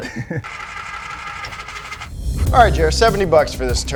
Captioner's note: jack whirring